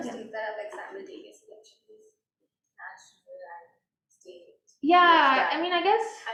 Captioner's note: faintly speaking